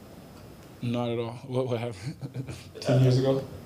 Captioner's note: laughs